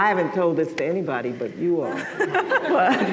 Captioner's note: laughter